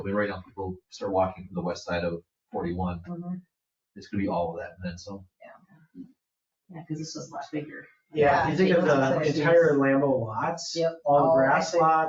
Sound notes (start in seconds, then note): 8.1 people chatter